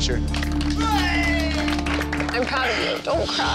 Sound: crowd applauds

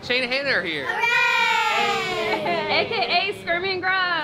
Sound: cheering

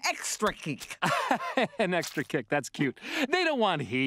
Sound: chuckling

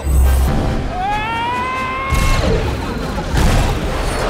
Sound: yells

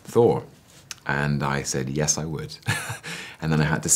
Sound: laughs

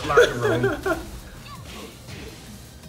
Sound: laugh

